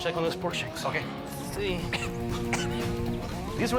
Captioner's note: coughing